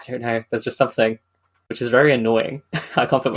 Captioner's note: laughing